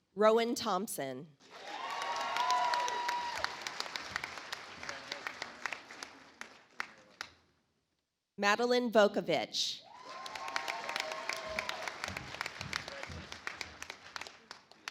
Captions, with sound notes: Rowan Thompson. (audience applauds) Madeline Vokovitch. (audience applauds)